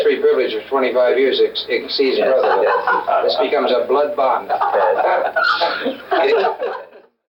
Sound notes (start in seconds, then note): 4.3 all laughing